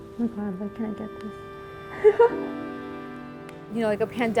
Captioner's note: giggles